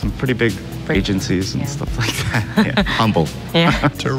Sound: laughs

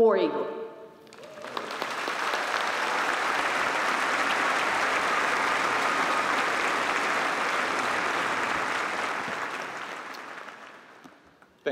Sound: applause

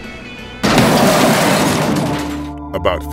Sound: sound of Car Crashing

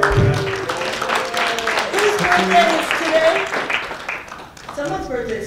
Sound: applause

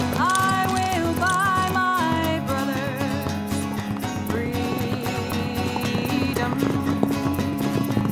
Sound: sounds of group of horses mounted and being ridden off

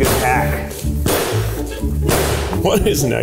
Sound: spoon banging

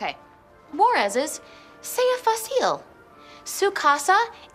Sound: speaking in Spanish

